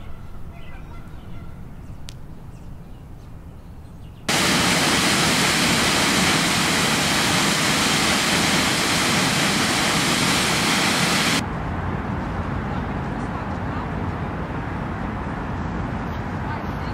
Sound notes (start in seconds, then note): 0.5 geese honking; 4.3 water loudly crashing; 11.7 distant cars